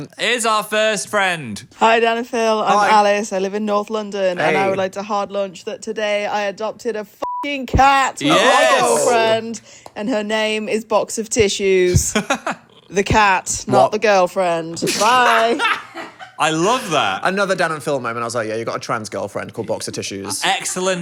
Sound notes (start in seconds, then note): 7.2 beep; 14.9 laughs